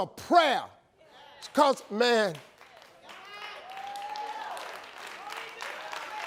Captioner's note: audience cheering